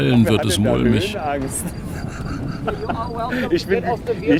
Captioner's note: laugh